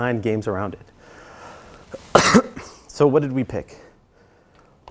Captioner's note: cough